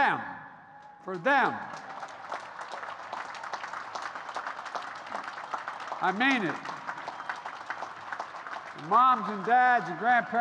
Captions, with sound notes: For them! (Applause.) I mean it. And, moms and dads and grandparents,